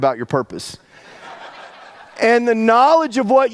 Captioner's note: audience laughs